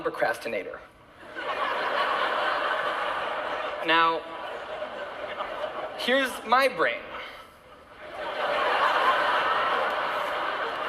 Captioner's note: laughter; more Laughter